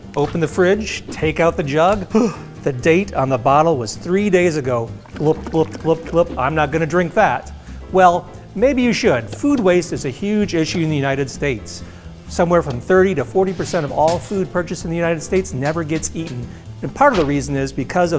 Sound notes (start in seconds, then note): 2.0 gasping